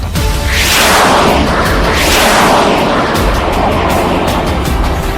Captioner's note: bazooka firing